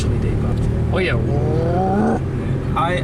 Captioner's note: imitates engine sound